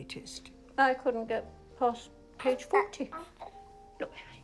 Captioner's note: baby cooing